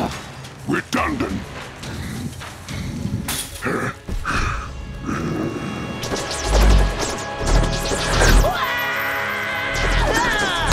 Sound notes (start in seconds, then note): 7.7 yelling